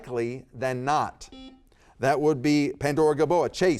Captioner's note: buzzer beeps